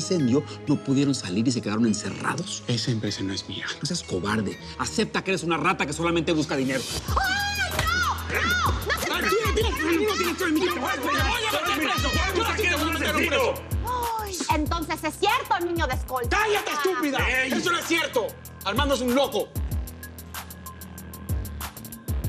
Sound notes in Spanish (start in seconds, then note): 12.6 Grito ahogado